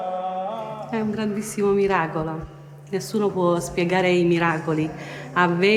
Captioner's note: speaks in foreign language